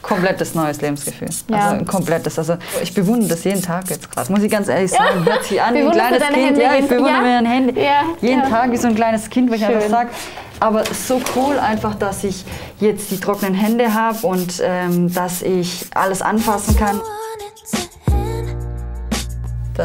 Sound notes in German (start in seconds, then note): 4.9 lacht; 18.5 Lockere Musik